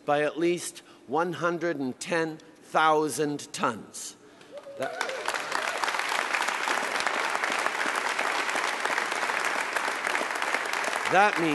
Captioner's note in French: Applaudissements